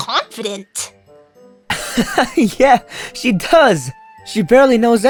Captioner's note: laughs